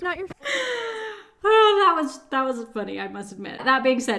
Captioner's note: laughs